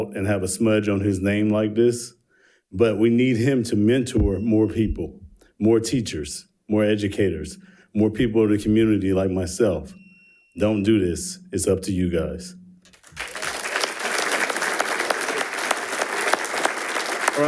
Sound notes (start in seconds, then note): 9.8 timer beeps; 12.9 attendees applauding